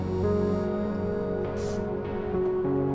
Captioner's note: water spritz